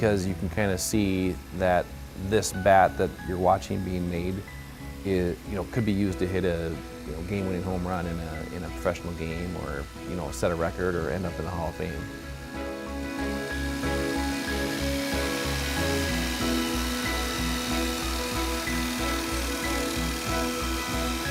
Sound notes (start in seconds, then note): 14.0 light, tinkling music; 14.0 machine whirring